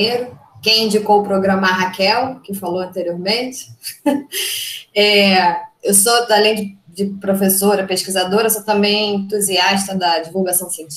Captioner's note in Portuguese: risos